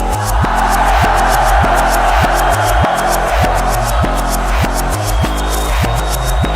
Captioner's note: crowd roars; upbeat music continues